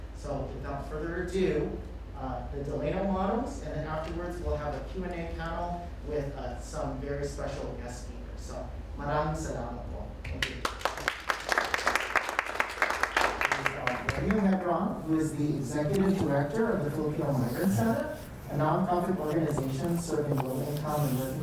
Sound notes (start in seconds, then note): 8.4 speaks in foreign language; 10.6 audience applauds